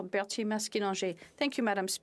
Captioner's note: speaking FRENCH